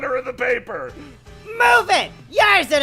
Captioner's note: yelling